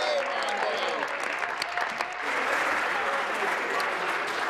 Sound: applause

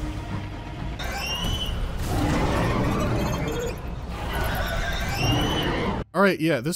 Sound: monstrous shrieking

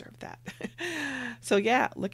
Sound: laughs

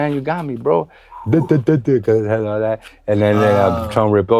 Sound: stuttering

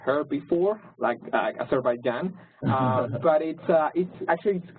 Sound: laugh

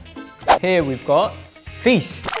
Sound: whooshing

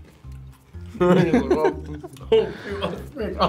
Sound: both laugh

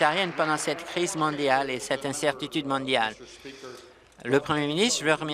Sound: applause

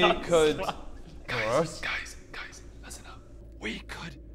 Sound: whispers

